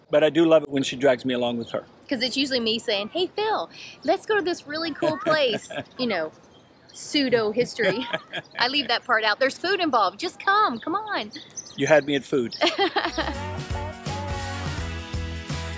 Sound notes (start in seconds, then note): 7.5 laughs; 12.6 laughs